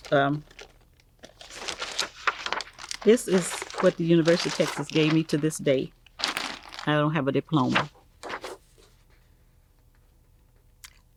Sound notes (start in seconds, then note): 8.9 paper snaps